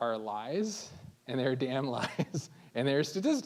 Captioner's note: laughing